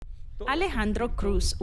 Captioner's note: speaking Spanish